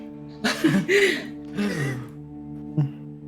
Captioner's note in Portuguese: Risadas